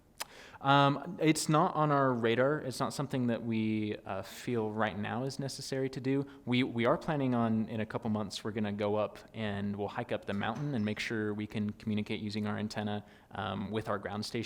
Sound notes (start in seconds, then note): none